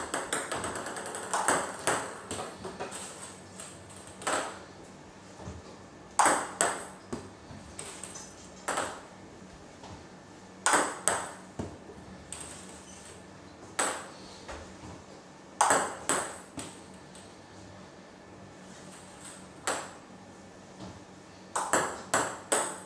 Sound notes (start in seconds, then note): 0.0 ball ping pong hitting continues; 10.6 ball ping pong hitting continues; 19.3 balls ping pong hitting continues